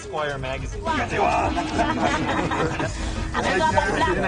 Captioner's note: people chattering